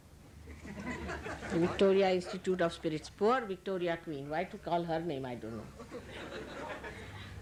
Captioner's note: laughter